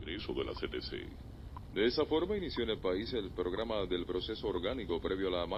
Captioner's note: radio